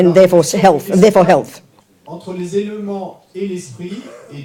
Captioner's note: audience member speaks in French